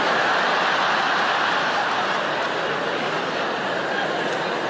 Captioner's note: audience laugh